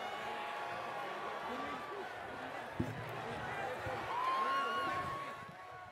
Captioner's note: cheering